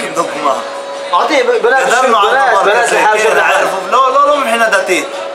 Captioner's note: speaking Arabic